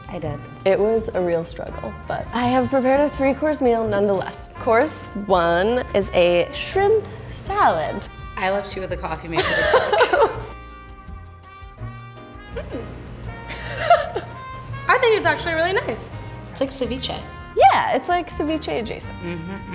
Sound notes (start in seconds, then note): 9.3 laughter; 13.5 laughter; 19.1 humming